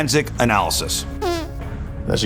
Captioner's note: squeaking